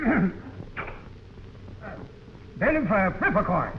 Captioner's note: stove hissing